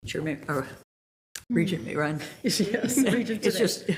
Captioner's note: chuckles